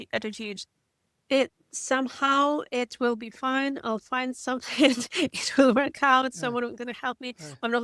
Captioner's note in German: lacht